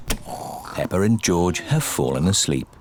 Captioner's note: snoring